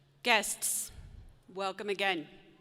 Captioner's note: none